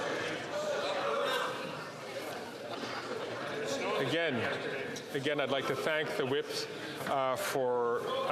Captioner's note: chatter